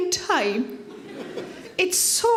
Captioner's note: audience laughs